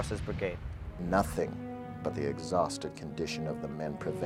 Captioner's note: voiceover